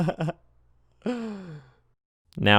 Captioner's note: tired laugh; exasperated inhale